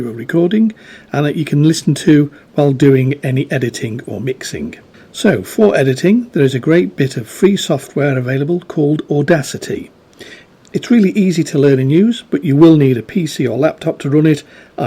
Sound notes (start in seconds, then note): none